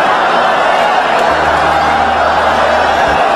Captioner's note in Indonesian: tepuk tangan